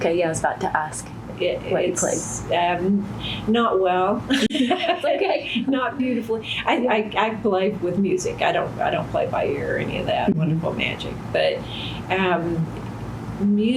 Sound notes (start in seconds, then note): 5.0 laughs